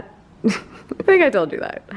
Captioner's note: laughs